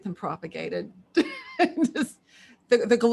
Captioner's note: laughs